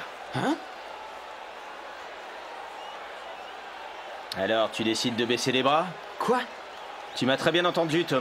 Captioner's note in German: lachen